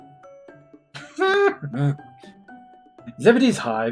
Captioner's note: giggles delightedly